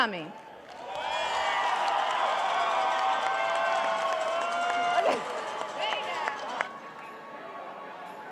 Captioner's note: applause and cheering